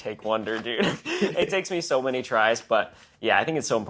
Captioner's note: laugh